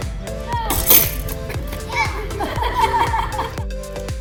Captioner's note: laughter